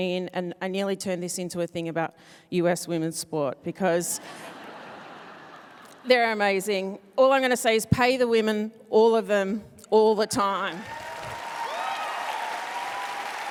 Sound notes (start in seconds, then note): 4.3 laughing; 10.7 applause